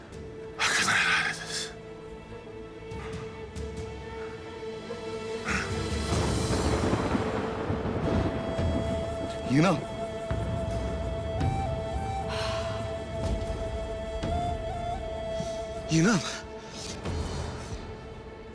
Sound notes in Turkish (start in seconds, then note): 5.9 Gök gürültüsü efekti